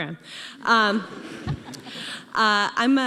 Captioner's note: audience laughing